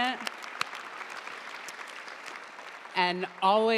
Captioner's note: audience applauding